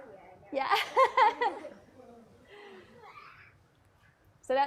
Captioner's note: laughs